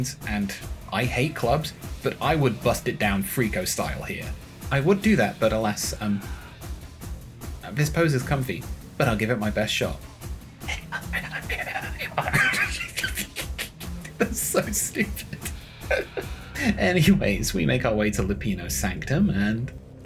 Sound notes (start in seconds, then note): 10.5 sounds of attempted dancing; 10.6 laughing